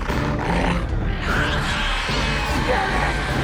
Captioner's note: maiden 2 shrieks